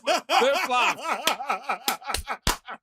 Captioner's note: laughing